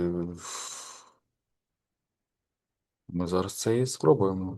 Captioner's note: sniff